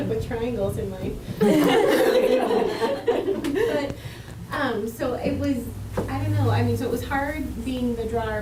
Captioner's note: laughter